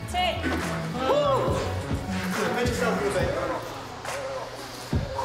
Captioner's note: man sighs in relief, all talk indistinctly